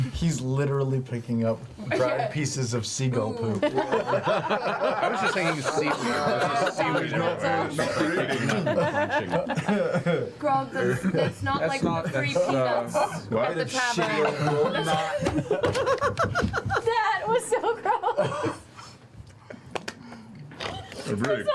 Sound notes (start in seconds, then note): 3.6 all laugh